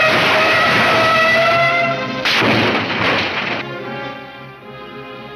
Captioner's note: car crashes